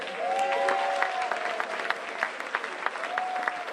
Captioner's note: applause